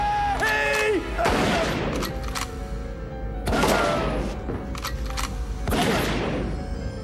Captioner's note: gun cocking; tense orchestral music; gun firing repeatedly